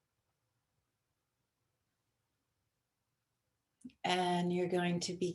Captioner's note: silence